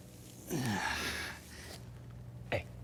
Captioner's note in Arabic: آهات; صوت منخفض النبرة